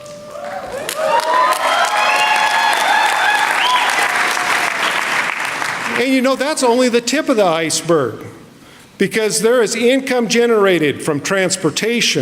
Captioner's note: applause